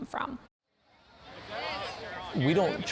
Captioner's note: sounds of the fair